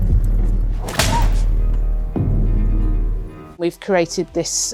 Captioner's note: whip cracking